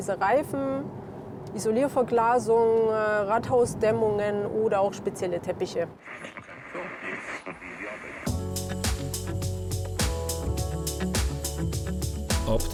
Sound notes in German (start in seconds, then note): 10.2 räuspern